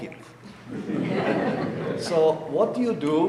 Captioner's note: audience laughing